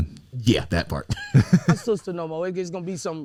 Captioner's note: chuckles